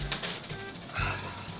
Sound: sigh

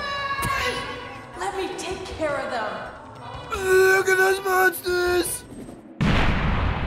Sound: laughs

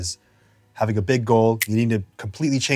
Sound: snaps

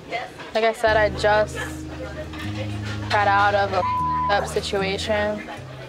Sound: beep

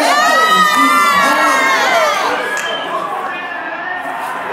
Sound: audience cheers

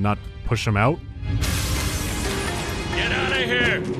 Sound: shattering glass

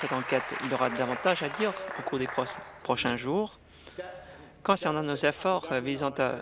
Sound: applause

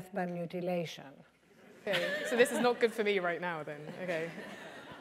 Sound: laugh

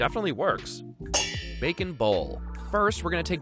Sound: pans clanging

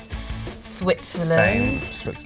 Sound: bell dings

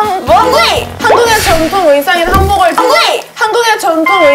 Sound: stumbling

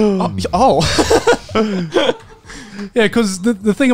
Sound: laughing

